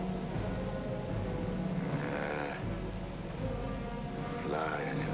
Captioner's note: groans deeply